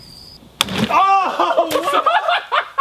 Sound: crickets chirping; hand slapping Wubble; laughter

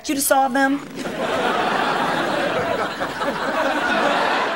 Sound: audience laughing

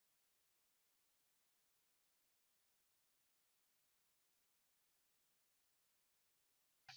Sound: silence

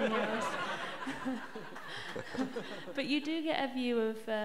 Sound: laughter

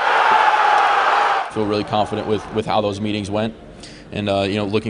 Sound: crowd

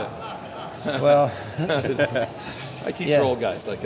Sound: laughing

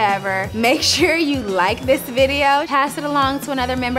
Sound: laughs

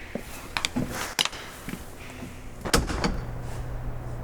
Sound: the sound of the door opening and closing

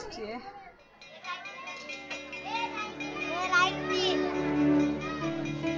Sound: bell ringing

